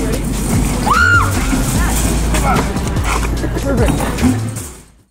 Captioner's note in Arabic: صرخات